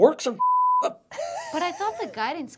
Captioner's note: laughter